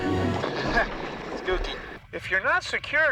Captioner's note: chuckles